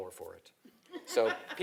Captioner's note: laugh